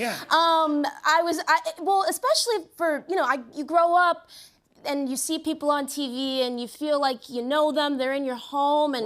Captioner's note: none